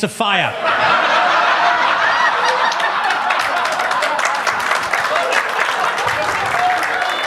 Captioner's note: audience laughs; audience claps